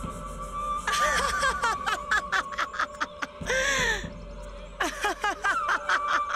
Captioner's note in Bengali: সশব্দ হাসি